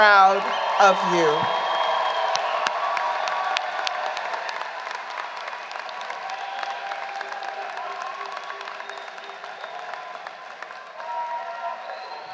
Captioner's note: applause